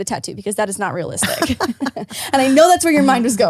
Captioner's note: laughs